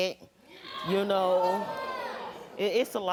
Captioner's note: audience reacting